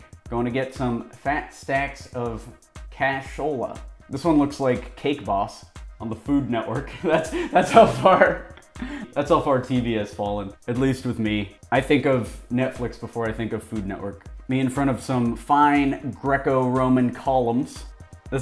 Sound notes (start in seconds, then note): 7.0 chuckles